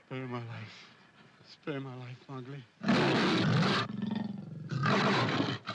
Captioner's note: panther growls & snarls; panther roars